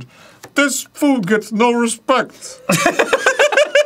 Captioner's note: arin, channeling rodney dangerfield; disrespectful laughter